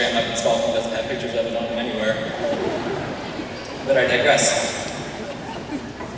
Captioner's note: laughter